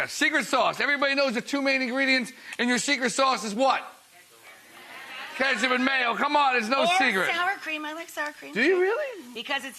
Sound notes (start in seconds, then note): 4.5 crowd makes confused noises